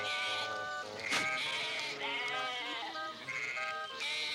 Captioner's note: sheep snorts